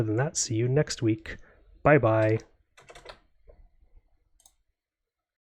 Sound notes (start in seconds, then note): 2.1 keyboard clacking